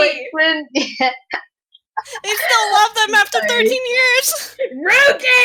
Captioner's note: laugh